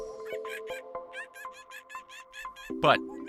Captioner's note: ape chattering